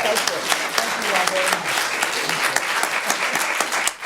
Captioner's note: laughing and applause